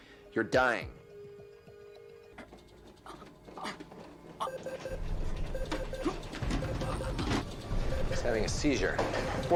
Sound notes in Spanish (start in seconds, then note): 1.4 música tensa; 2.6 Paciente gruñendo; 4.4 el dispositivo emite un pitido; 4.8 Paciente gruñendo